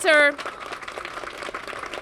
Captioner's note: applause